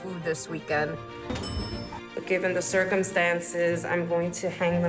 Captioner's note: elevator bell dings